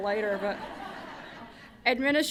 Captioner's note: laughter